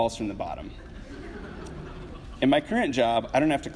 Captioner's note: audience laughs